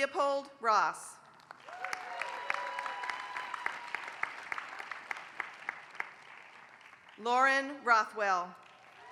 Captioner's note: applause